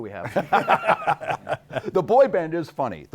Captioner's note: laughing